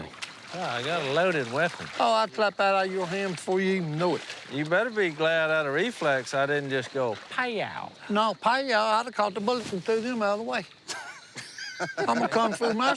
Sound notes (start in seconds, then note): 10.8 laughter